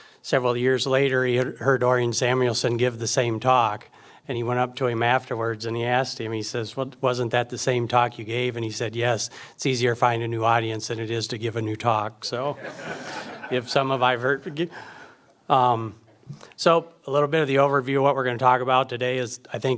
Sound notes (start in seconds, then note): 12.5 audience laughs